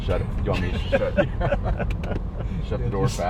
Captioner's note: laughing